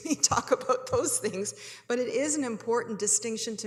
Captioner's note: chuckles